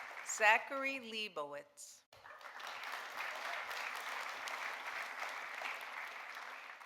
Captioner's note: audience applauding